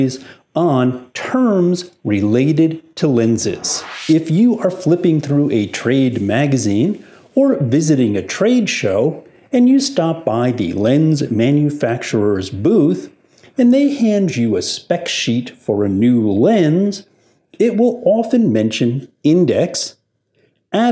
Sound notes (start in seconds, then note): 3.3 air whooshing